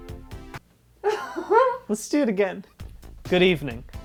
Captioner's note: laughs